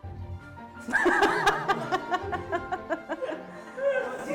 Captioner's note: laughter